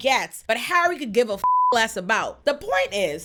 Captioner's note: beep